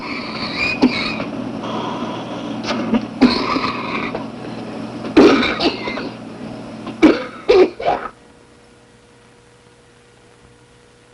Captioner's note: man coughs, woman pounds on his back, breathing machine whirs